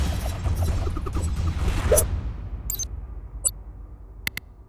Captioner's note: shuriken whooshing